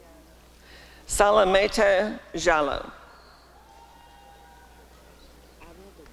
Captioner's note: applause and cheering